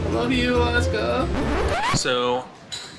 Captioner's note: record scratching effect